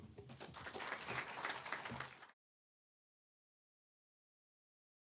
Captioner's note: applause